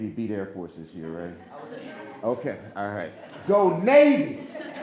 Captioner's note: audience laughing